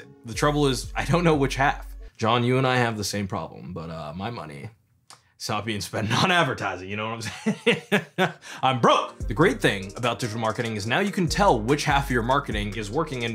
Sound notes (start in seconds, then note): 7.2 laughing